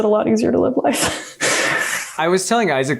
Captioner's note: laughs